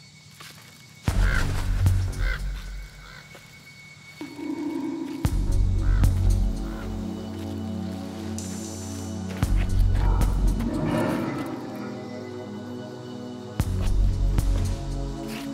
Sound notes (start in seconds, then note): 2.0 crow cawing; 5.3 eerie music; 9.9 growling